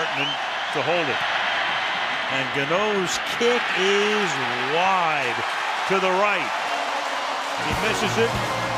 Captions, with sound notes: Nortman to hold it. And Gano's kick is wide to the right. [cheering] He misses it.